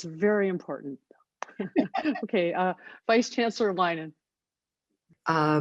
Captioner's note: laughter